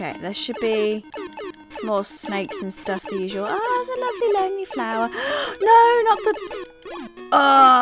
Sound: gasps

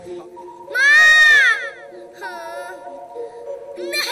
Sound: whines

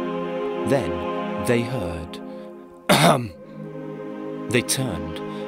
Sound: ahem

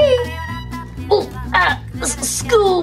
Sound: Shaggy groaning

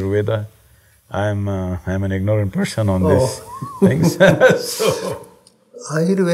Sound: both laugh

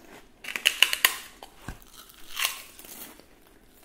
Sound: crunching

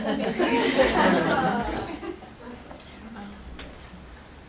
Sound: laughter

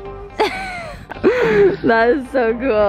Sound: laughter

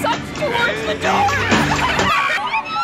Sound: laughter; scream

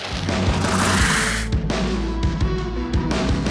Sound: upbeat music; splash

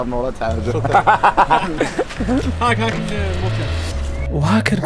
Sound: laughter

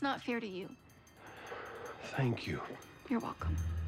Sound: sighs

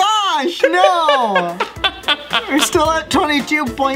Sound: laughs

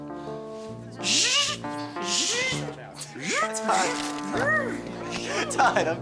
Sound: making robot noises; chuckles

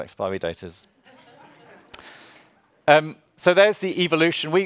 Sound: audience laughs

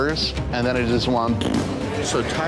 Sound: blows raspberry

